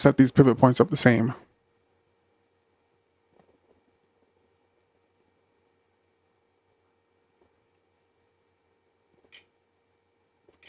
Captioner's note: silence